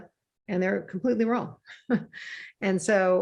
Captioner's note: chuckles